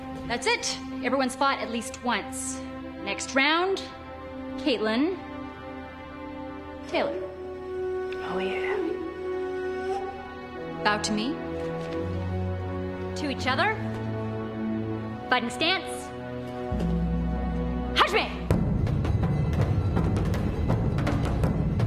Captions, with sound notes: That's it, everyone's fought at least once. Next round, Caitlin, Taylor. - Oh yeah. - Bow to me. To each other. Fighting stance. (sensei speaking foreign language) (tense drum music)